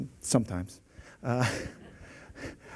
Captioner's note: laughs